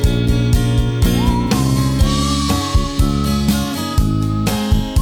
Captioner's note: whistling